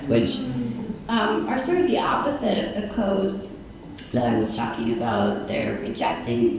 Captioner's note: none